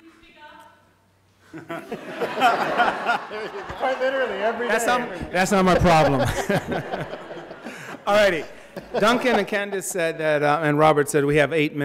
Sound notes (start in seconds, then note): 1.9 audience laughing; 4.9 laughs; 7.5 laughs